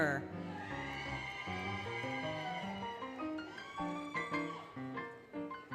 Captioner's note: applause, Cheering, Music